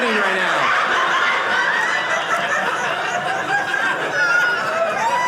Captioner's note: audience laughing